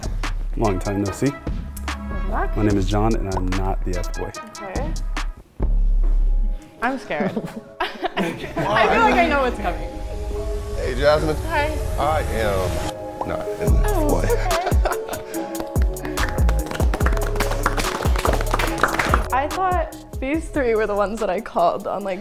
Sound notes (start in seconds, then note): 13.7 laughs; 15.4 everyone clapping